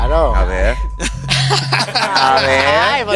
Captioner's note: both laugh in winners